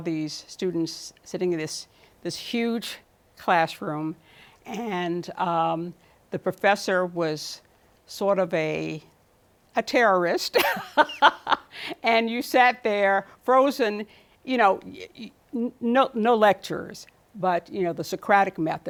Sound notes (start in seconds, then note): 10.6 laughs